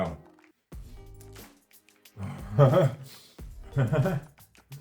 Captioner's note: laughs